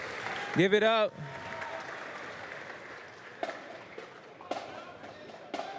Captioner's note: applause